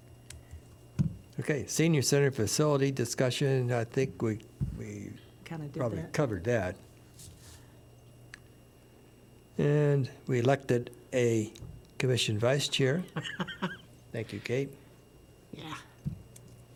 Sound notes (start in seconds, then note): 13.1 laughter